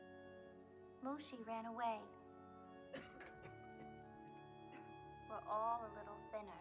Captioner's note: coughing